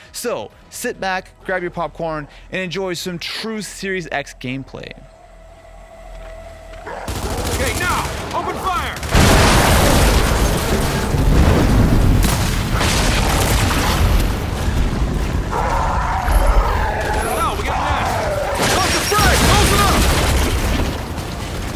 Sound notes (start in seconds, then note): 9.2 explosions blasting; 15.4 monsters roaring